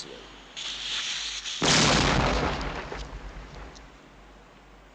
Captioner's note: explosion booms